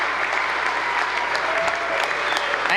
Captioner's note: applause